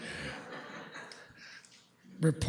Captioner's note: laughter